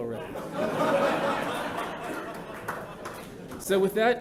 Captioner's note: laughter